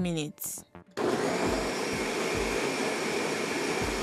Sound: whirring

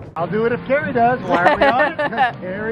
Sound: laughs

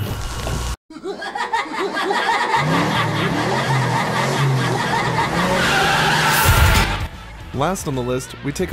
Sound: Sweet Tooth Laughing

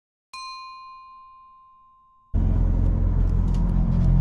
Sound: bell dinging

